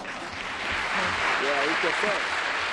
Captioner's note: applause